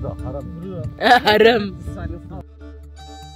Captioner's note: laugh